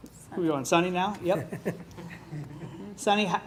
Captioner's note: laughs